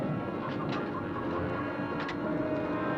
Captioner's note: chicken clucking